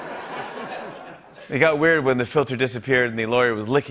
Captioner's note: Imitates Trump; normal voice